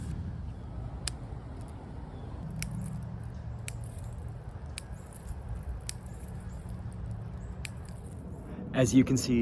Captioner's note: cutting Sounds